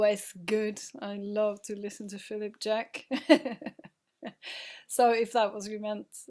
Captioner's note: laughing